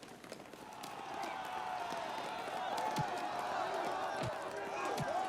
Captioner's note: crowd clamoring, shouting